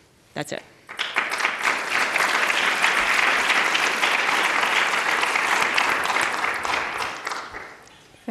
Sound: applause

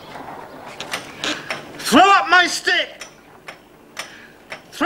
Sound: ticking

